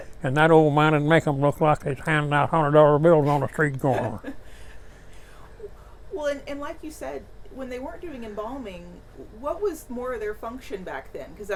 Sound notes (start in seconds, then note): 3.2 laughing